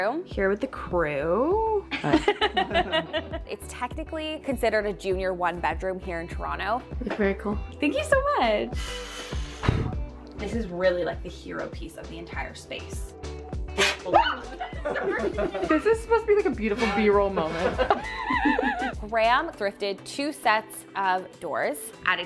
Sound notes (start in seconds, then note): 1.9 group laughing; 13.9 group laughing